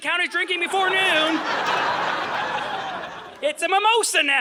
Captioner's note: audience laughing